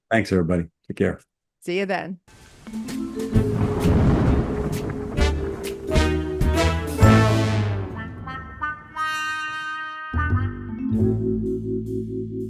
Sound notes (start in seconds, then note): 2.9 suspenseful music; 3.1 thunder rumbling